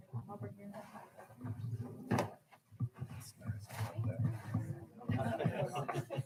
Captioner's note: people chattering; people laughing